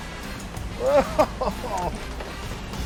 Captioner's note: chuckling